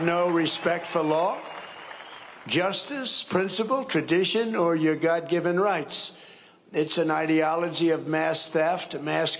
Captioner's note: cheering and applause